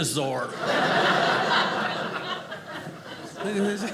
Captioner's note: audience laughing